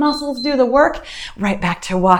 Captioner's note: timer beeps